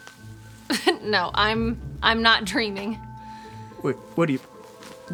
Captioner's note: laughs